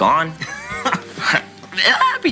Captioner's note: laughter